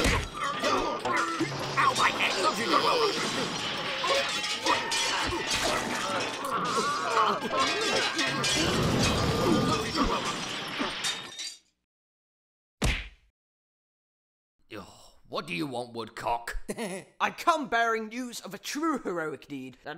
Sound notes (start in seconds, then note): 0.0 smack; 1.9 fighting and punching; 5.5 splat!; 8.6 roar!; 11.2 silence; 12.8 punch!; 15.2 sigh; 16.6 chuckle